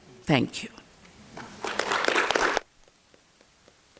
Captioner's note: applause